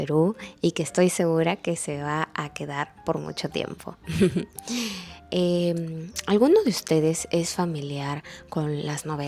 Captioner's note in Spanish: risas